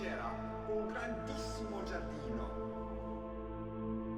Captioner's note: speaking Italian